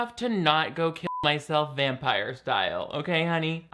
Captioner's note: beep